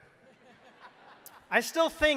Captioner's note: crowd laughing